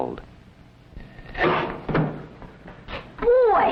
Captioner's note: blam!